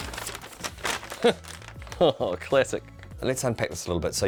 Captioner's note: laughs